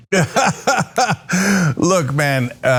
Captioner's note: laugh